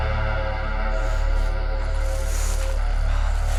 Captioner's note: breathing heavy in anger